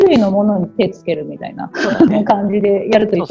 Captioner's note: laugh